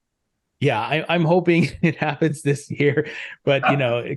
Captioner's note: chuckles